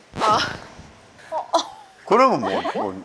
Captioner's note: uh... heh